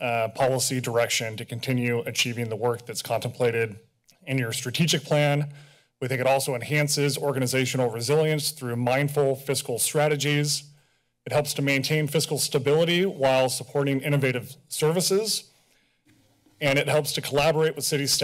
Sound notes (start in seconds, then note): none